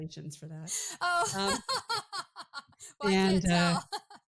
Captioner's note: laughing